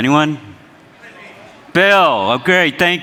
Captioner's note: crowd members murmur